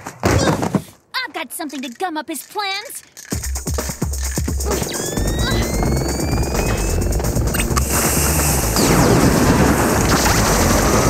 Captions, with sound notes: Uh! [thud] I've got something to gum up his plans. [gun blasts]